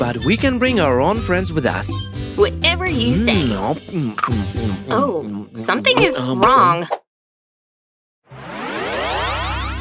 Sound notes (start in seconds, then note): 4.2 sounds of biting and chewing